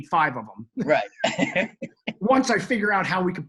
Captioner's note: laughs